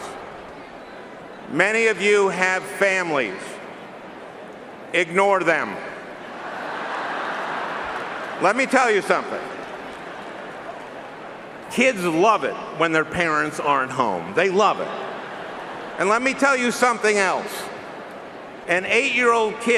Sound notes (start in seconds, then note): 11.5 laughing